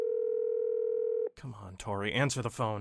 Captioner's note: phone Ringing